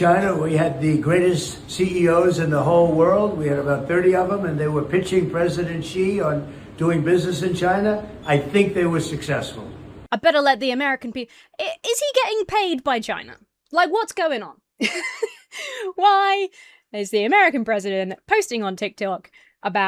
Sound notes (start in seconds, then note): 14.8 laughs